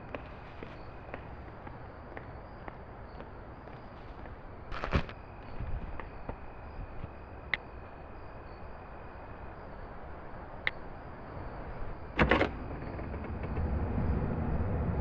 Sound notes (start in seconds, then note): 4.7 food bag crunches; 10.6 phone clicks; 12.2 door swings open